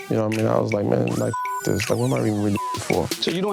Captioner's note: beep